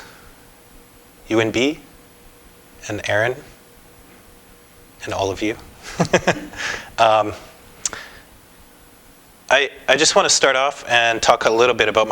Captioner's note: laughter